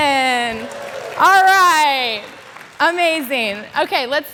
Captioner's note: crowd cheering